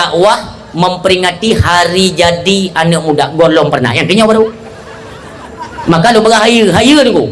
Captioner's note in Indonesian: tertawa